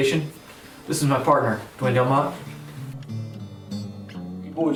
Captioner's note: office radio